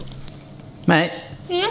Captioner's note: oven bleeps